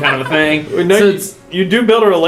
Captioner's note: laugh